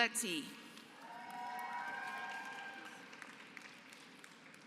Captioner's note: applause